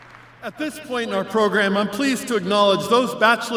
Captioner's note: applause